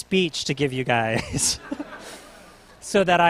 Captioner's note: laughter